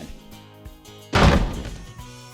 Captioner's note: slam